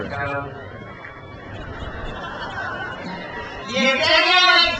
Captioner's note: crowd cheers